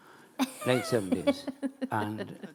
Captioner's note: laughing